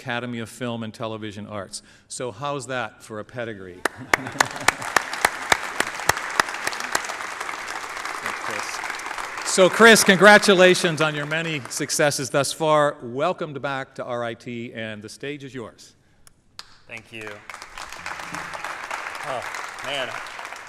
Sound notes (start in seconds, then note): 3.8 applause